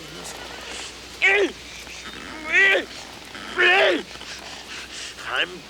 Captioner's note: Bruto screams; Bruto grunts wildly